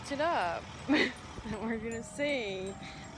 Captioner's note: laugh